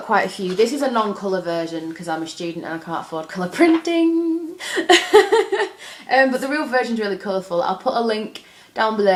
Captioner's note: laughs